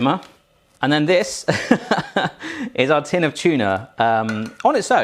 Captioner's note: laughs